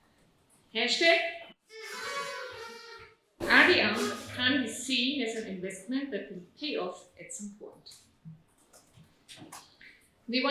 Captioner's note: audience toots